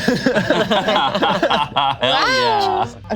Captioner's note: group laughs